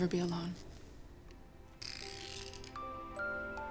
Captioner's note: winding; christmas globe music playing